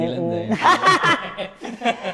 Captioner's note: laughs